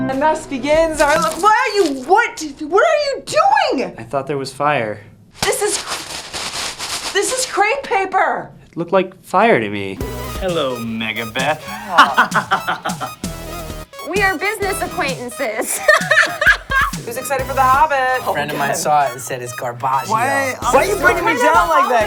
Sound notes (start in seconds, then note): 11.4 laughs; 15.4 laughs